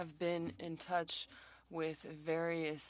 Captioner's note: speaking French